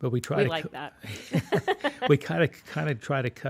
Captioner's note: laughs